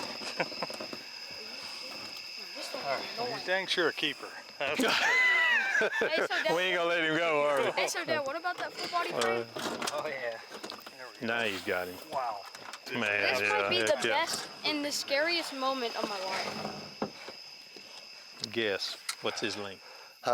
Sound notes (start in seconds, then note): 4.6 laughing